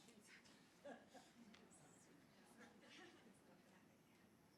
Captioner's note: crowd chattering